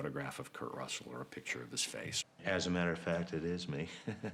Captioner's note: laughs